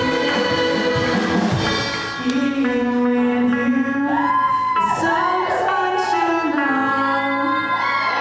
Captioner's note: cheers for the samosa slay